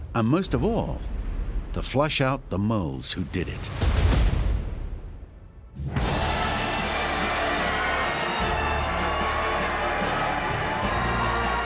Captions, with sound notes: And most of all... to flush out the moles who did it. [huge applause]